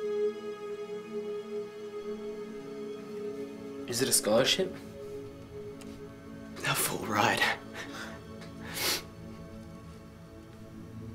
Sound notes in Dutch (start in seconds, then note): none